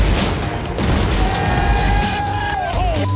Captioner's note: cheers and applause; laughing